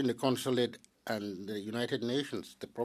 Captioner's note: speaking French